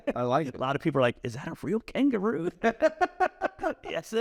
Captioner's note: laugh